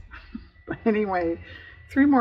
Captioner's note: laughs